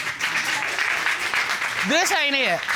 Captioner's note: applause